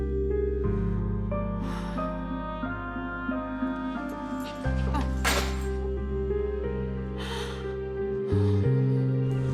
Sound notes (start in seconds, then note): 1.5 sighs